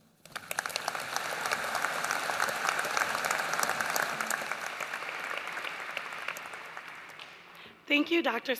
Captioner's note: applause